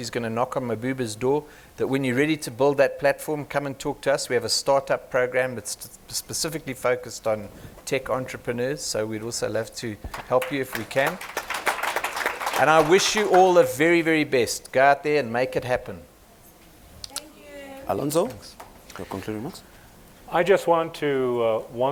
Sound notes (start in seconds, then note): 10.1 applause